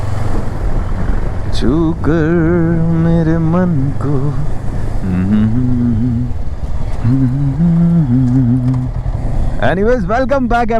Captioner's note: resumes humming